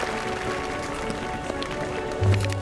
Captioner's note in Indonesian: Tepuk tangan